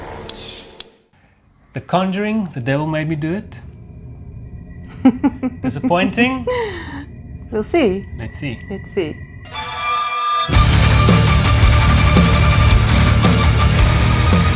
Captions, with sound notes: The Conjuring 3 The Devil Made Me Do It...? Disappointing? We'll see. (laughs) Let's see.